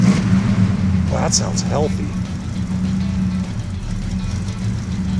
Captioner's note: engine roaring; engine roars